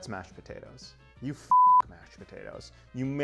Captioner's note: beep